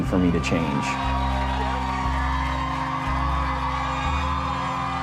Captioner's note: audience cheering